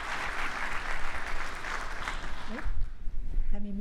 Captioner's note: applause